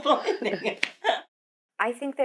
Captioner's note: both laughing